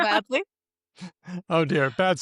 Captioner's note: laughs